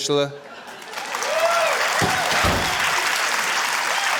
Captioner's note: cheering, applause